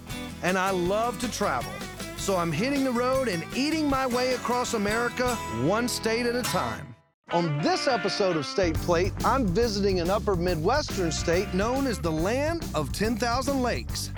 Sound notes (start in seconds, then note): none